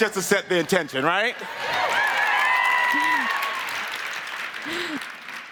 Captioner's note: audience cheering